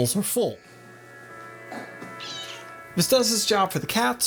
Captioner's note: Zelda Squeaks